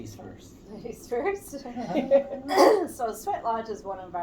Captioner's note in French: rire